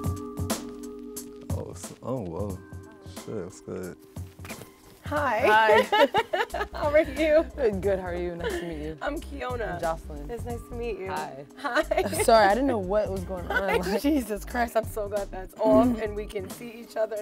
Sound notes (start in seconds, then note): 5.5 laughs